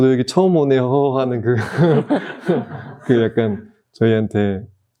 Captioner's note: everyone laughs